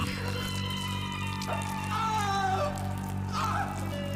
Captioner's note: screams